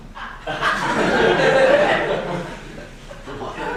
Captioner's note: laughing